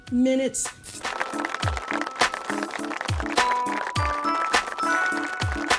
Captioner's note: audience applauding